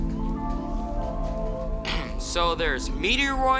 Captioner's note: clears throat